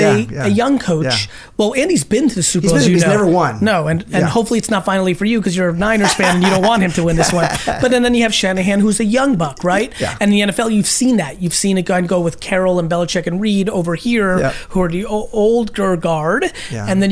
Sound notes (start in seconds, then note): 5.8 laughs